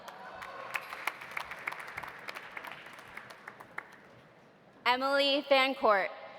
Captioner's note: audience applauding; audience cheering